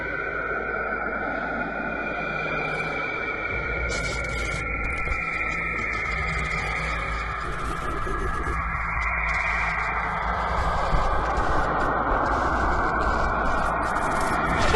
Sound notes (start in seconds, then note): 1.2 whooshing sounds and static are added